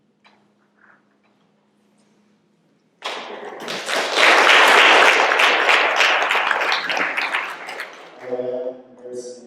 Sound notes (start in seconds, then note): 3.0 applause